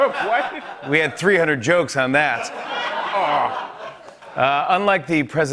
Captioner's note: laughter; groans